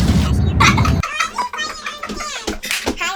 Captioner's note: laughter